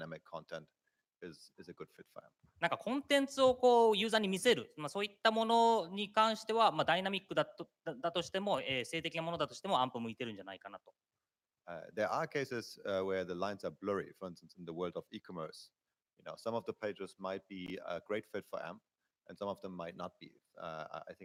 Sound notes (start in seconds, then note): 7.3 speaking japanese